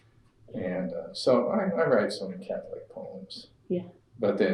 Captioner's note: laughter